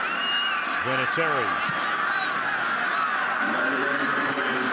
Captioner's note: pa announcement